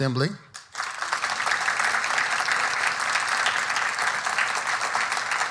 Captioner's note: audience applauding